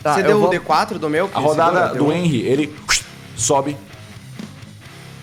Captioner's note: whoosh